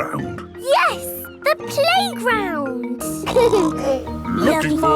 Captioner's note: snorting; laughter